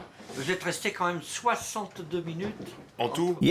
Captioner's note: speaking French